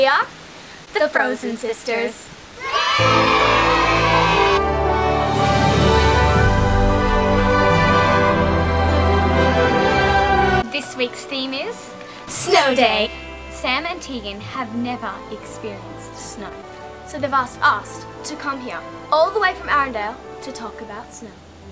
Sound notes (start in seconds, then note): 2.6 girls cheering, Frozen theme music